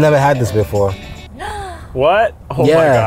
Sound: gasping

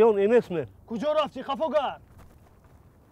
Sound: in Tajik

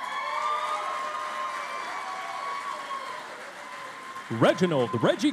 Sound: cheering and Applause

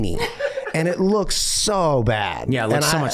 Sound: Meg laughing

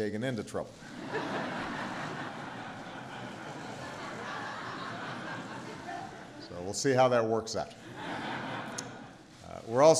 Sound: laughter

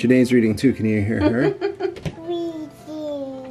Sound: laughs

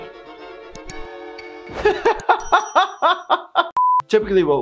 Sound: laughing

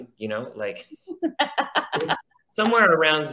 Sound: laughs

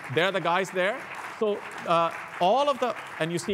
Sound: applause

